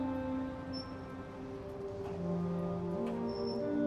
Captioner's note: gate creaking